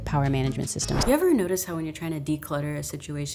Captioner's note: wind whipping